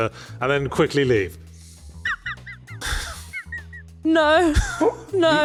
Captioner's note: is an awe and laughs like a broken squeaky toy